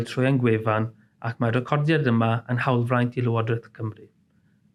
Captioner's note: in Welsh